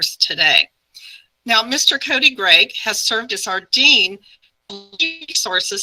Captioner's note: audio glitch